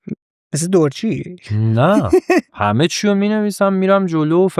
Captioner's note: laughs